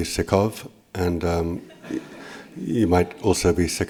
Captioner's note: laughter